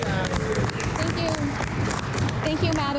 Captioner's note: some Applause